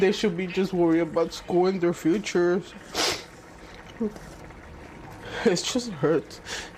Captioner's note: sniffles